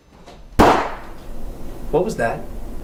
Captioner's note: gunshot